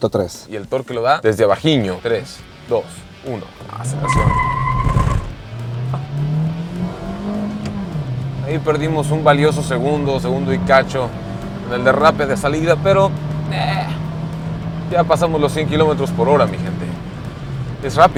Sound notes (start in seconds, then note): 4.4 engine roaring; 4.4 squealing tyres